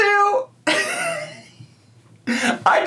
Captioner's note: laughs